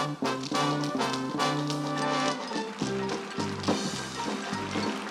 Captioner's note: applause